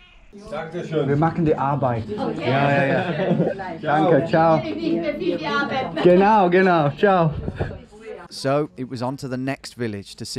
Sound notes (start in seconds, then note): 0.7 speaking foreign language